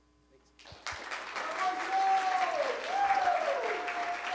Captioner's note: applause